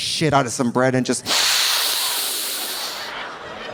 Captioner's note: sniffs deeply; audience laughing